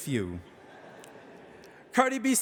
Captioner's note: audience laughing